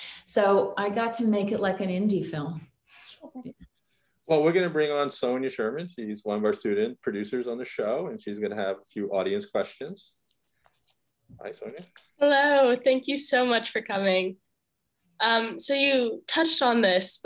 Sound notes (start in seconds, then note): none